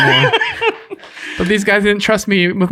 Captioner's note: laughing